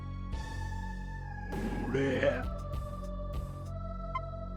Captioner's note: geese